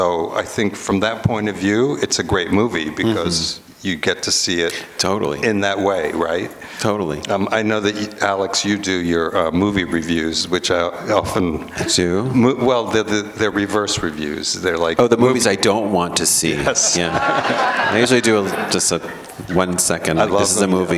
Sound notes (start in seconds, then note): 16.6 laughter